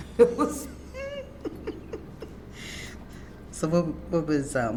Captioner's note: laughs